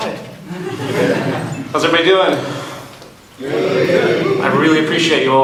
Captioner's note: audience in unison